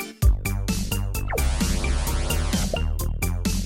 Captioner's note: zapping noise